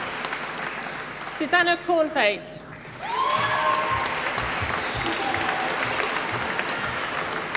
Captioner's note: applause